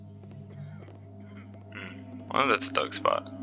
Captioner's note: guard coughs